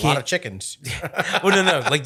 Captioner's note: laughing